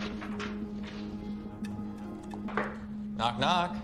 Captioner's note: phone ringing